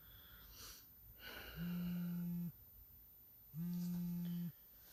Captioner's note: phone vibrates